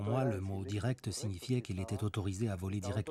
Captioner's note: speaks Spanish